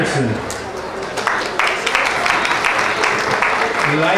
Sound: clapping

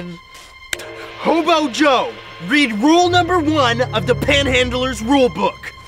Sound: click

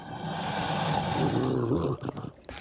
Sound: growling

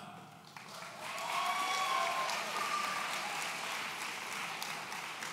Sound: audience cheering

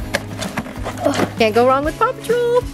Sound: grunt

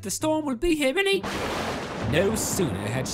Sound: loud Thunder clap

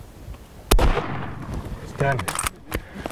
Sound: gunshot

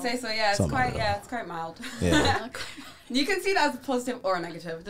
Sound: laughs

